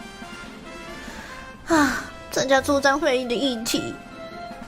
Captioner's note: sigh